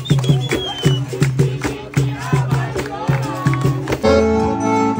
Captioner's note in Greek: χειροκρότημα